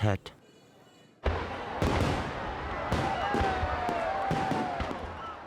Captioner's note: fireworks pop, people cheer